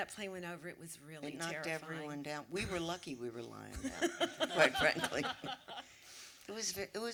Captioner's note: laughter